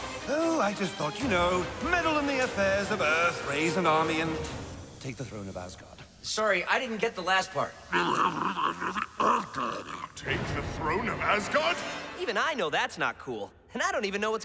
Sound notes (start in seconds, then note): 7.9 grunting